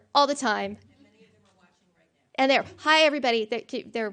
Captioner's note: faint voice